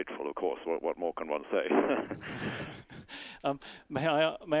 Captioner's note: both laugh